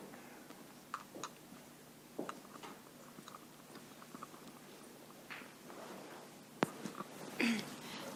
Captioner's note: audience member, clears throat